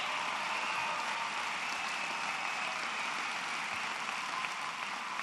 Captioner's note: applause